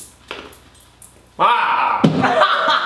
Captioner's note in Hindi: कराह रही; हंसते हुए